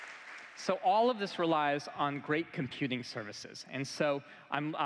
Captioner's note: applause